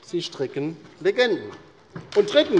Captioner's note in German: Beifall bei der LINKEN